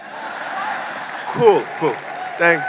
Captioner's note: audience laughing